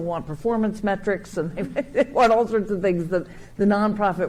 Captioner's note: chuckling